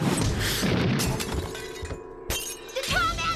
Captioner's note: glass shatters